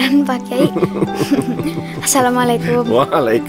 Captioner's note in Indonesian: Pak Kyai dan Ibra saling tertawa